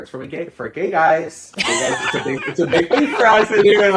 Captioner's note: laughing